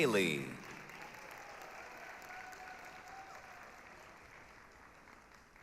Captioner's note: applause, cheering